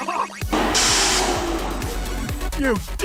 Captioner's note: burst